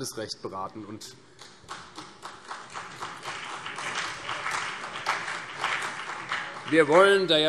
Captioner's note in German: Beifall CDU und BÜNDNIS 90/DIE GRÜNEN